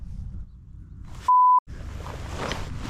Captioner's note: beep